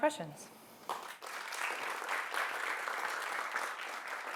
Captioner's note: applause